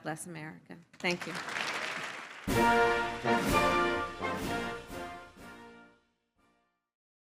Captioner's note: applause